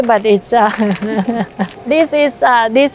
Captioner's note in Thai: หัวเราะ